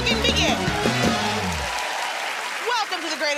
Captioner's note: cheers and applause